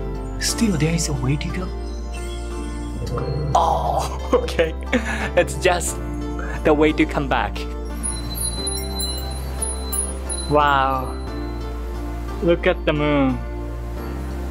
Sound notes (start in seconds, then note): 7.8 sound of wind chimes